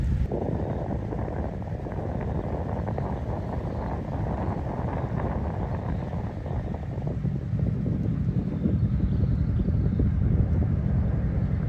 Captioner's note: wind blowing